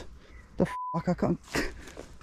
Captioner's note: beep